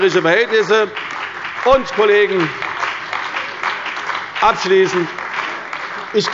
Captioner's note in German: Beifall bei der CDU und dem BÜNDNIS 90/DIE GRÜNEN